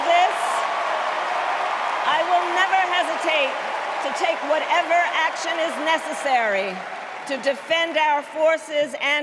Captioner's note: cheers and applause